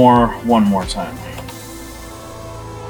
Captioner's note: keyboard key press